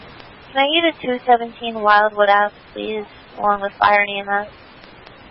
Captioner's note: radio traffic